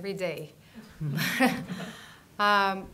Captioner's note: laughter